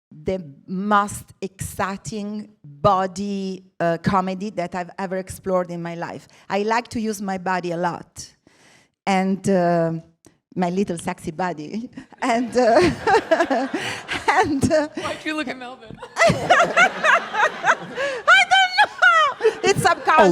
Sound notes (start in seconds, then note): 12.2 laughs; 15.9 laughter